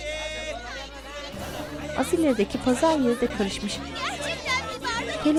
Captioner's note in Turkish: Tartışma sesleri